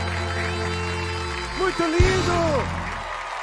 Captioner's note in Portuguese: aplausos